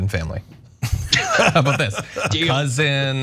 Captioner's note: laugh